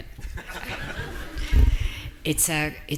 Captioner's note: audience laughing